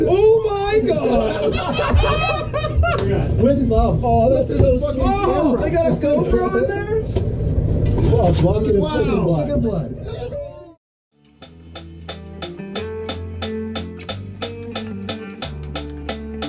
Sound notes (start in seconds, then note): 0.9 all laughing; 7.9 laughing; 11.4 metronome pulsing to music track